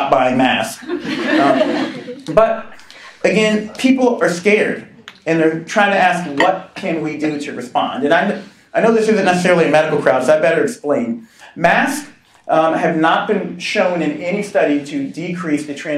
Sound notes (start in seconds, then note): 0.8 laughing